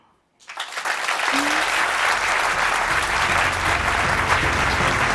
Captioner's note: applause